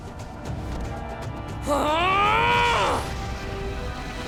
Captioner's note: moaning